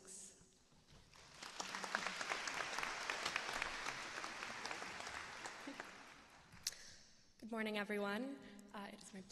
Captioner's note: applause